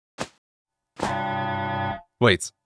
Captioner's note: alram going off